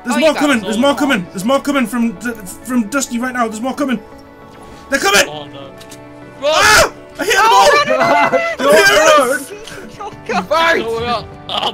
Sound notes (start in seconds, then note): 7.2 screams; 9.0 yells